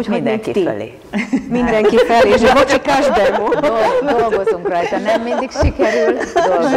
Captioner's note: laughing